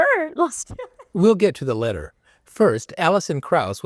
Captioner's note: laughter